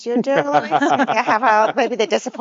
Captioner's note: speakers laughing